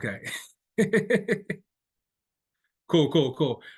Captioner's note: laughing